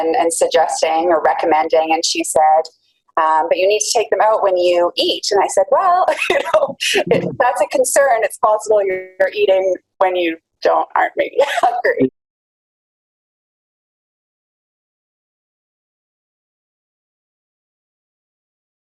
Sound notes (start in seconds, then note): 11.4 laughs